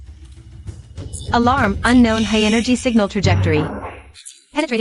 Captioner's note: alarm